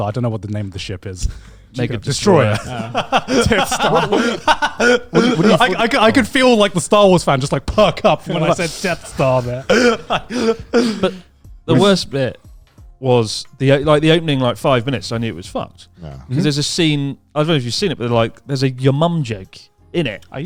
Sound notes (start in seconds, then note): 2.2 chuckling; 4.6 laughing